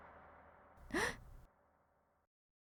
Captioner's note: gasp